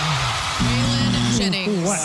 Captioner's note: audience Cheering